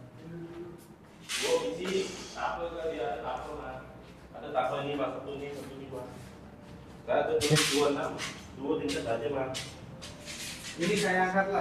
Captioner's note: workers discussing in the background